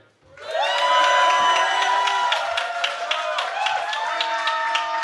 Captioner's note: cheering